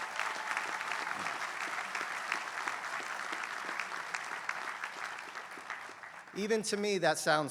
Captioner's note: applause